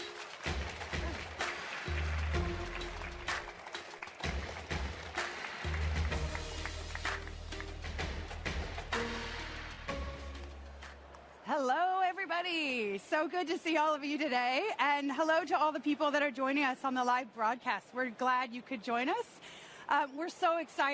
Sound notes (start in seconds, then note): 7.1 applause